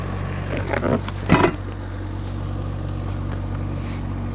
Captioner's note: metal clanks; wood thuds; wood clatters